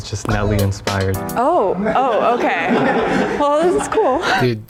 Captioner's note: contestants laughing